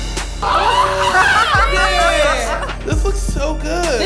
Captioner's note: girls exclaiming